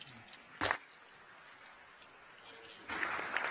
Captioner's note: applause